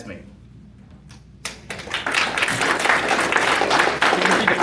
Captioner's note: applause